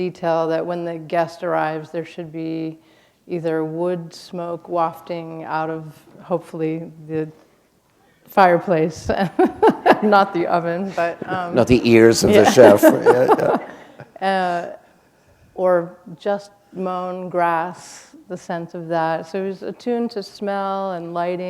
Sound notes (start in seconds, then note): 9.2 laughter